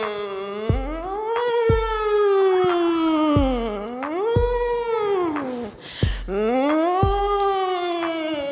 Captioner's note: hums in various pitches